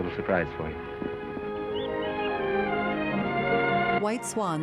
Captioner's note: birds chirping